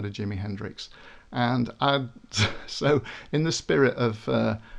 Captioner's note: laughs